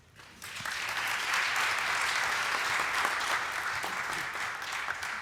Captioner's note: applause